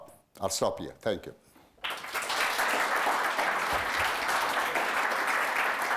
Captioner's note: applause